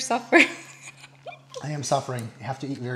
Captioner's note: laughs